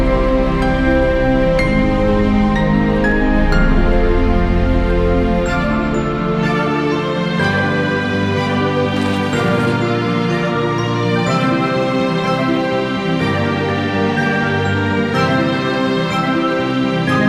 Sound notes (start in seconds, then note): 0.2 bright music continues; 9.0 bright music continues; 9.0 gravel crunching